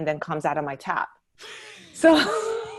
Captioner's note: both laugh